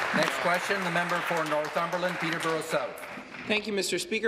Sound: applause

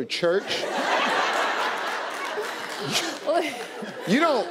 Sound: audience laughing

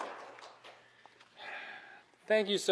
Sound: applause

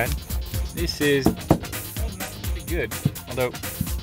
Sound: knock Knock

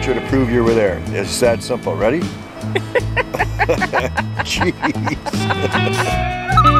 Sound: laughter; loon calls

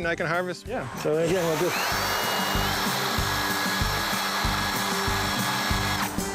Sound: mechanism whirring

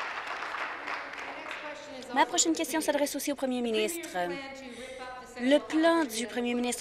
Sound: applause

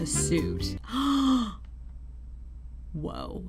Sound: gasping

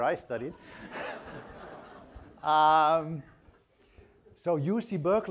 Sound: audience laughing

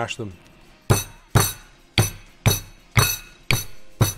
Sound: thudding

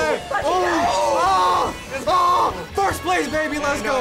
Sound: all exclaim

